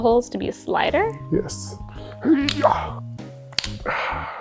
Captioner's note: grunts